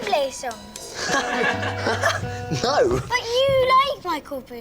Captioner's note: laughs